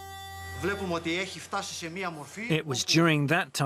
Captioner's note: speaking in foreign language